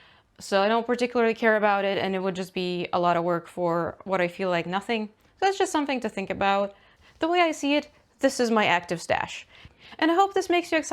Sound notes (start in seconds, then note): none